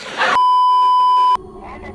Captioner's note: laugh track; beeeeeep